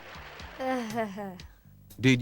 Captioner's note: laughs weakly